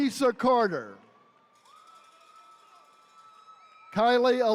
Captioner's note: attendees cheering